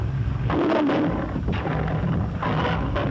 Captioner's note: roaring